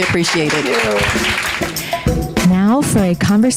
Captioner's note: audience applauding